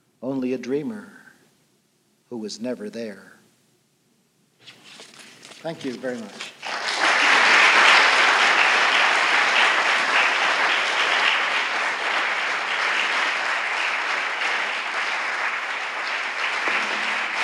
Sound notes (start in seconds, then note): 5.4 applause